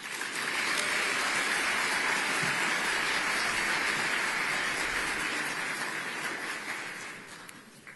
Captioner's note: applause